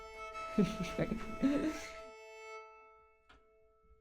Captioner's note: chuckles